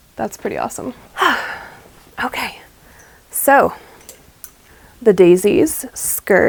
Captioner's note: satisfied sigh